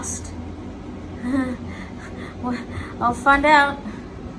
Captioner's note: laughs nervously